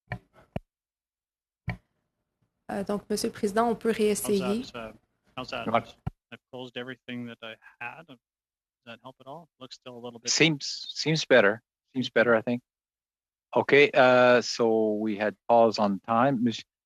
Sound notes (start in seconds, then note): 7.2 speaking French